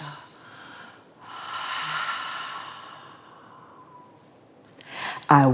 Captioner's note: breathes out